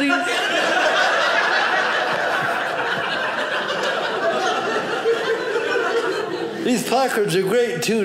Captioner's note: audience laughing